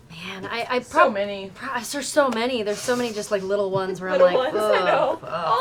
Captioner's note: groans